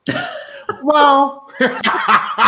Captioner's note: laughing